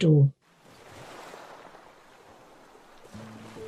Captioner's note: waves lapping; melancholic music